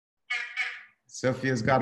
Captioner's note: soundboard honking